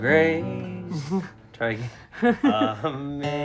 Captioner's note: chuckling